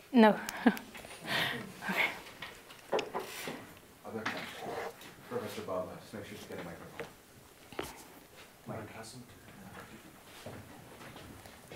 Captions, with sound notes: No. [LAUGH] Okay. >> Other questions? Professor Babha, please get a microphone. >> Mic isn't.